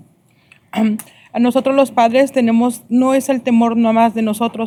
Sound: speaking spanish

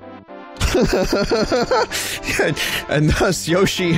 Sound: laughs

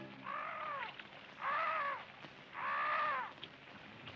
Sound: bird calling

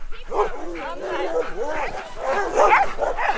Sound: dogs barking

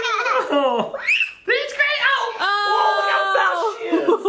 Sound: scream

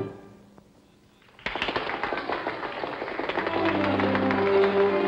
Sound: applause

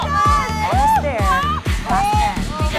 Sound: yells

